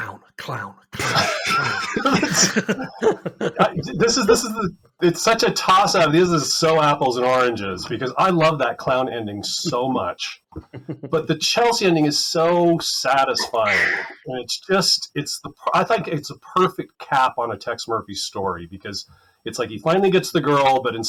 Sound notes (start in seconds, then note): 1.0 laughter